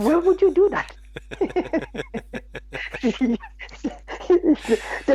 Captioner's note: both laughing